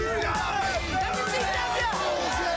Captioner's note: crowd chatter; crowd cheering